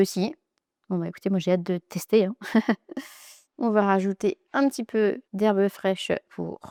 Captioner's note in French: rires